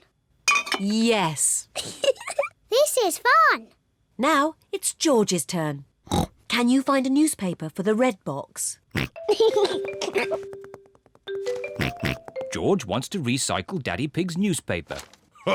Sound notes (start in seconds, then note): 1.8 giggles; 6.1 snorts; 9.0 snorts, giggles; 11.7 snorts